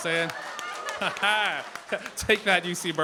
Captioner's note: cheering, applause